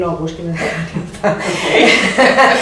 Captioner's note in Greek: ήσυχο γέλιο